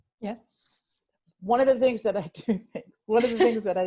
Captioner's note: laughs